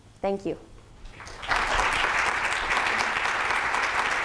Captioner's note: applause